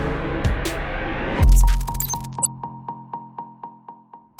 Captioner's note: beep echoes